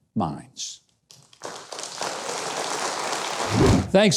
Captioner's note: audience applauding